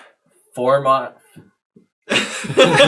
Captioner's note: all laugh